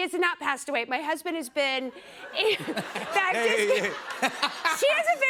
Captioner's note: laughter